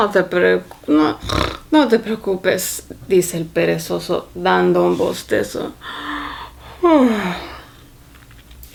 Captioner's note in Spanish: bostezo